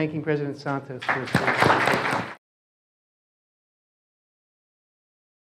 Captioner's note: applause